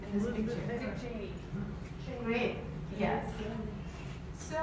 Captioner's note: audience members answer quietly